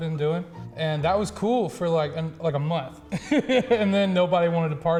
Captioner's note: laughs